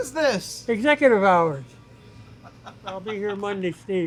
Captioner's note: laughs